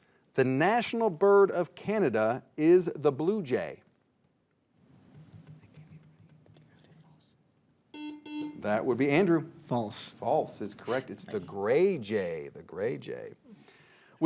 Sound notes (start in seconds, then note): 7.9 buzzer beeps